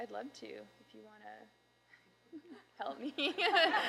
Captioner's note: audience Laughter